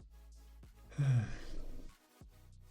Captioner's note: sigh